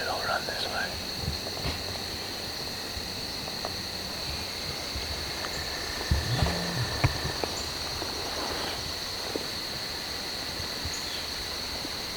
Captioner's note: insects